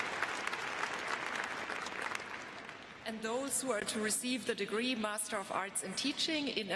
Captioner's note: applause